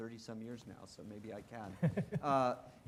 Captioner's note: laughing